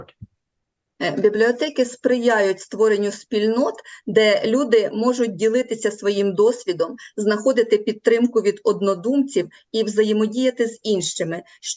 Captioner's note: foreign Language